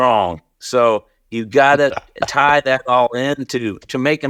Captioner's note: laughs